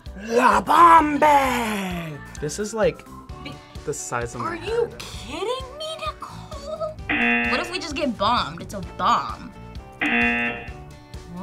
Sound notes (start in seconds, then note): 7.1 buzzer; 10.0 buzzer